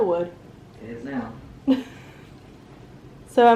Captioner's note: laughs